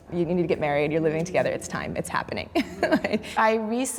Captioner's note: chuckles